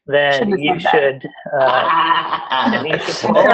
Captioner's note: laughter